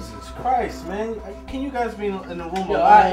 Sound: chattering

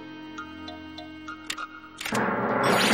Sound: clicking

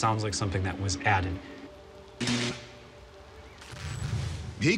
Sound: crackling

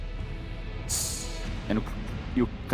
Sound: tsssss

